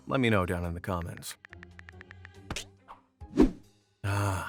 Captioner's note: cell phone keyboard clicking